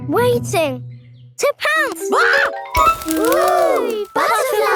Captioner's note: screams